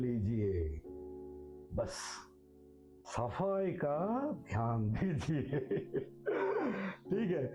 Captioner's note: laughs